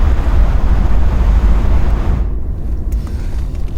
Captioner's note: engine revving